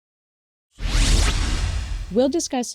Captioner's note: electronic whoosh